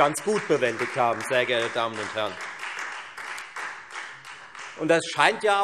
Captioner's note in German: Beifall Freie Demokraten